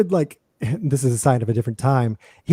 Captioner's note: laughter